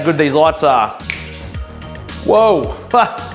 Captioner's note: snaps